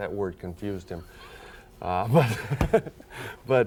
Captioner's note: laughing